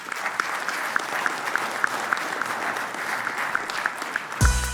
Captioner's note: applause